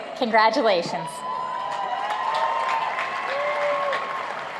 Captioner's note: applauding